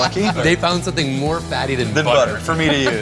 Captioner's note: laughs